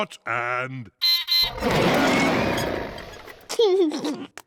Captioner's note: beeps and roars; laughs